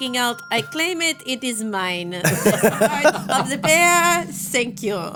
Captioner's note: everyone laughing